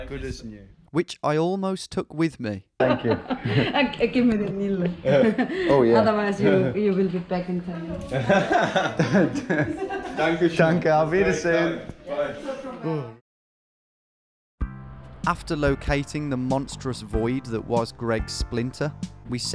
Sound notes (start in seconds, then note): 8.1 men laughing; 12.1 speaking foreign language